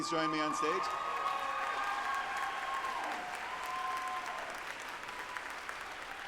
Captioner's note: group applauding and cheering